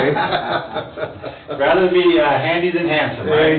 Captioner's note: both laugh